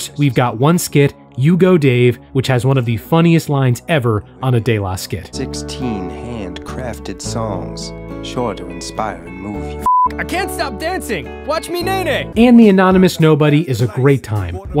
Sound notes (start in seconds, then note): 9.8 beep